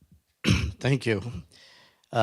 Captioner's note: clears throat